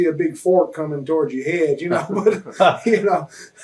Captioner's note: chuckles